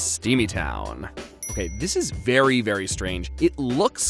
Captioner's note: dings